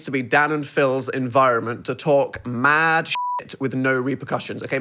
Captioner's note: beep